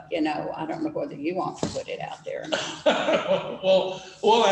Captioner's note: laughter